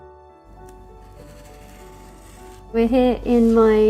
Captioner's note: light music; cardboard scrapping